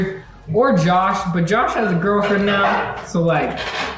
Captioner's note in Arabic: صرير السلالم